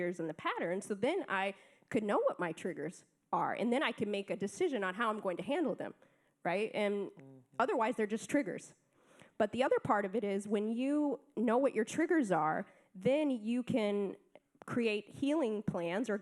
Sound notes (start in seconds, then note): none